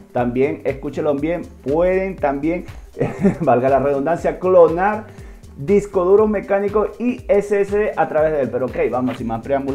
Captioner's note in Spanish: risas